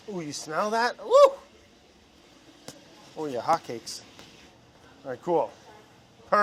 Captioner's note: none